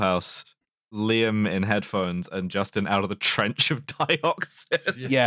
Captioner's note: laughing